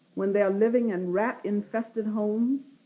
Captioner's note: none